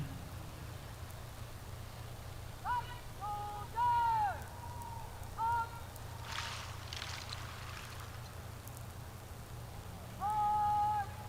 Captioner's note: shouted commands